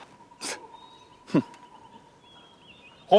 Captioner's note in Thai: เสียงหัวเราะเยาะ